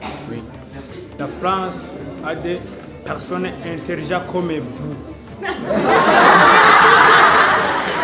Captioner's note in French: rire